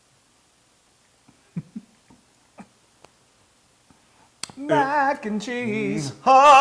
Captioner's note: laugh